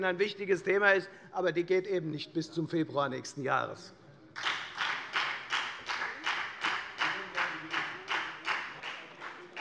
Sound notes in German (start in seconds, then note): 4.3 Beifall bei der FDP